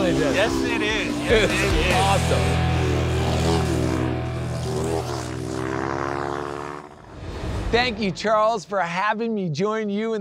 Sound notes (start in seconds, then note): 1.2 upbeat music ends; 2.6 race car engine revving